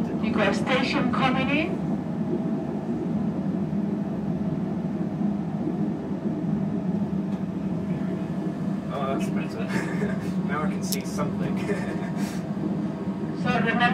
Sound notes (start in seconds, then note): 9.6 laughter